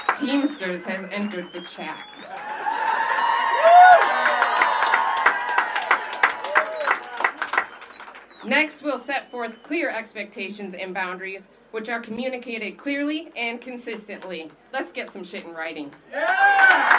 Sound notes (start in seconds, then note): 6.1 applause